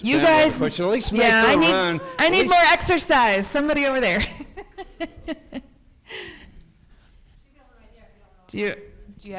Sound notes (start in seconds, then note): 5.5 laughs